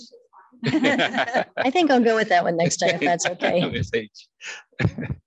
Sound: laughing

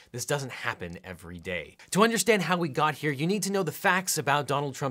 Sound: none

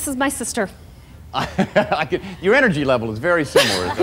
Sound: laughs; laughter

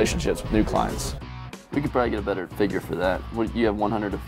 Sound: on phone

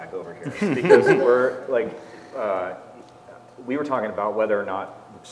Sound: laugh

